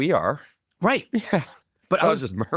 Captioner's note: laughs